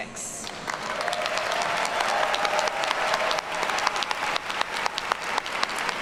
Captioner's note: audience cheers and applauds